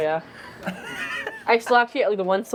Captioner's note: laughing